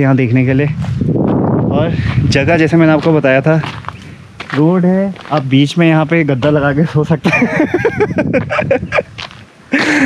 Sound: laughs

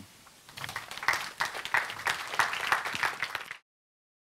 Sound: applause

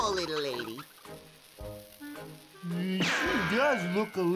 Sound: fuse hissing

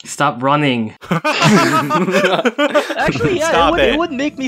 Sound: laugh

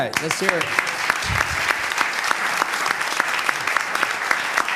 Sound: applause

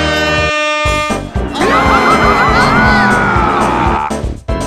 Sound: all characters SCREAAAAM

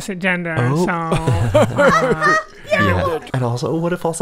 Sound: laughter

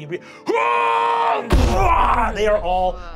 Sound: shouting

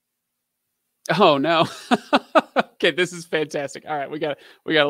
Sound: laughing

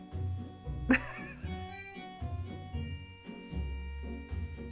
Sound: chuckling; upbeat playful instrumental music

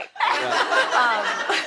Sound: laughter

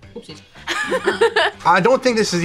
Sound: laugh

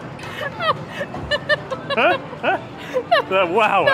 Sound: laugh

